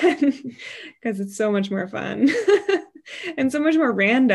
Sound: laughs

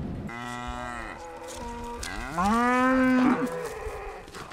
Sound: cows bawling

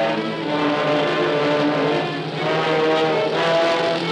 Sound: helicopter whirring

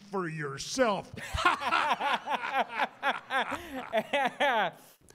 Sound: laughter

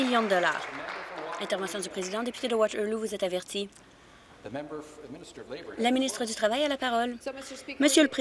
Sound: applause

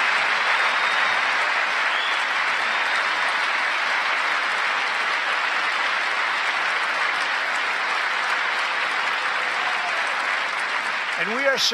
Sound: applause

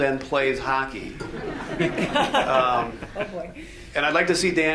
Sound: audience laughs

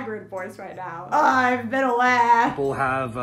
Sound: hoarse voice

